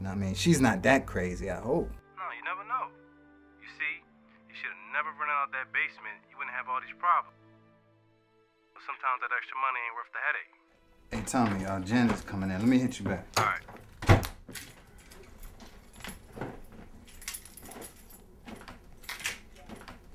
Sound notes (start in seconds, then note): 12.6 door clicking; 16.1 keys jingling